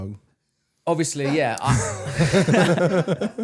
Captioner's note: both laughing; producer laughing